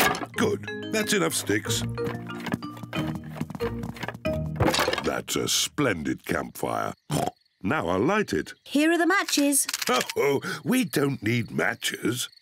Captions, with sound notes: Good. That's enough sticks. That's a splendid campfire. (OINKS) Now I'll light it. Here are the matches. Oh, we don't need matches!